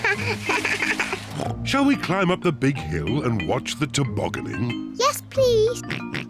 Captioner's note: laughs; snorts; oinks